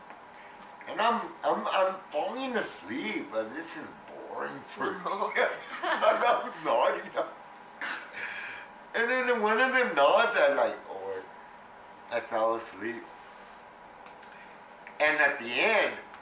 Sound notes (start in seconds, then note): 5.5 laughter